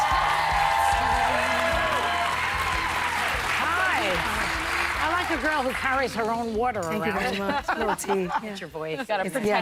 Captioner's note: cheers and applause